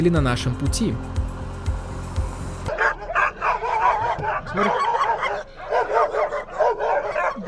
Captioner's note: barking